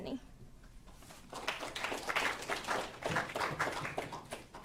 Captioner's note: audience applauding